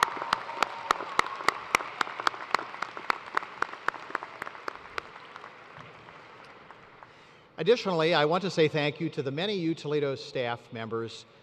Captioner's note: cheers and applause